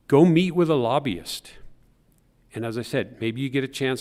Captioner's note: none